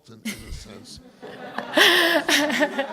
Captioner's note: laughter